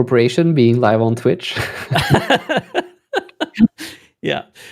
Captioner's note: laughter